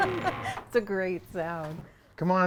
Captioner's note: laughing